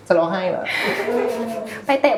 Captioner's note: laughs